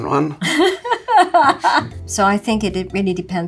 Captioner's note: laughs